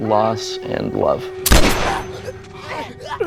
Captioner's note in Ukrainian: постріл